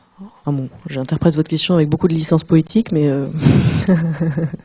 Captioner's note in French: rires